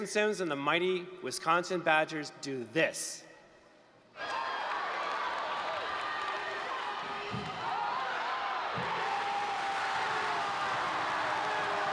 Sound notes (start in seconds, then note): 4.1 cheers; 9.2 applause, cheering